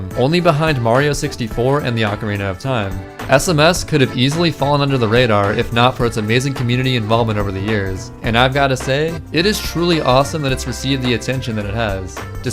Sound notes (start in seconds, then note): none